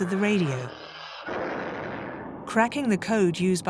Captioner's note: torpedoes booming